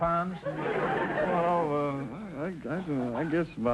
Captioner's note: audience laughter